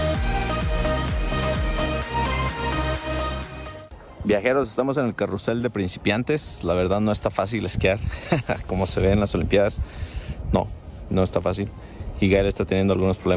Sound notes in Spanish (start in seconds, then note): 8.0 risas